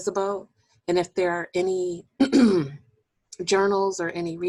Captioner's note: clearing voice